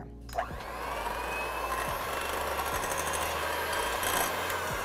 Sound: mixer whirring

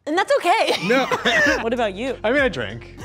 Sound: chuckles

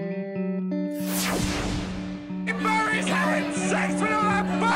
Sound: people shouting

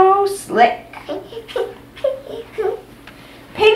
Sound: laughs

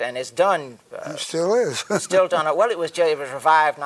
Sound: chuckles

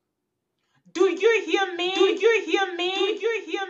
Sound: echos begin

